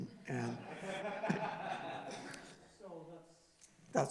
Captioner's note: laughing